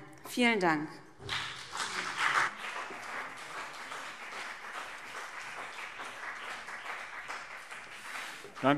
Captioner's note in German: Beifall BÜNDNIS 90/DIE GRÜNEN und CDU